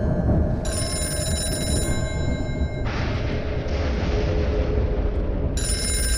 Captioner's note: phone rings